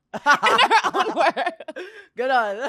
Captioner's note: laughs